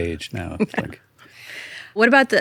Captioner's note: laughs